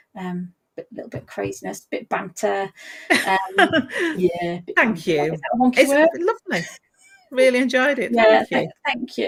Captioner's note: laughs